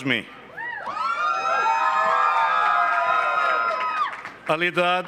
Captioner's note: cheering and applause